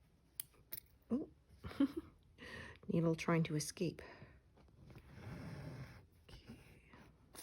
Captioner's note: laughs